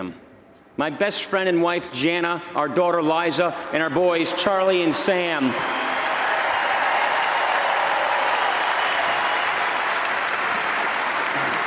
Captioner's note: applause